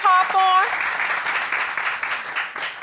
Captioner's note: applause